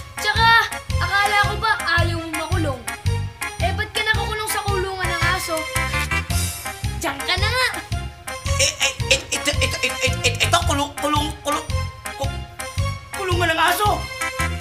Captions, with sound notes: And didn't you say you didn't want to go to jail? Why are you locked up in the dog cage now? Stay there! [stutters] This is a cage, a cage, a cage, a dog's cage!